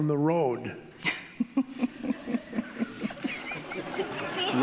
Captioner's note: laughing